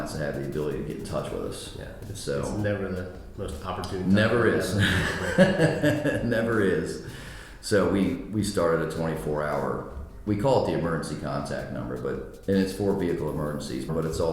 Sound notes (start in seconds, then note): 4.6 laughs